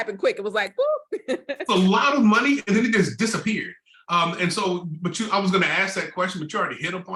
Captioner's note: laughter